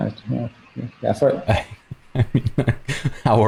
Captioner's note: laughter